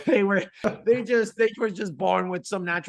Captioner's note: laughing